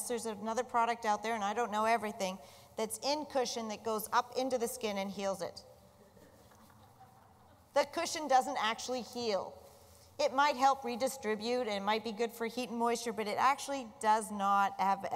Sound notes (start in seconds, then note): 6.0 laughter